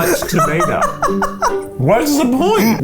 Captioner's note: laughing